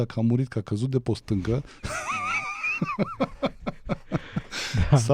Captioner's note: laughter